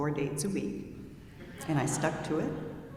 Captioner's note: audience member laughing